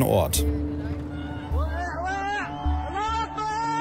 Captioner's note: screams